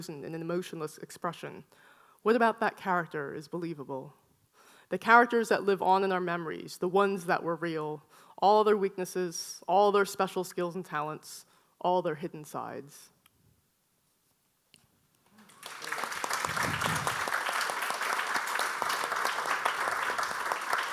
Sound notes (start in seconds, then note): 15.4 audience applauding